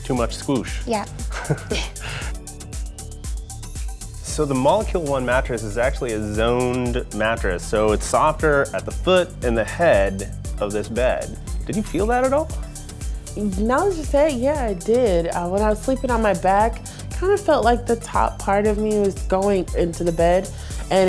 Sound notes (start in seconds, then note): 1.2 laughs